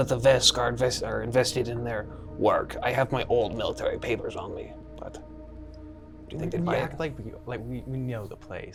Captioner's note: stutters